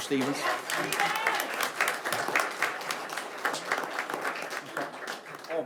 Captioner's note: audience applauds